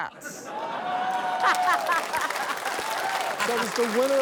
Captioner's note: laughter